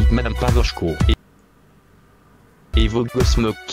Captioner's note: silence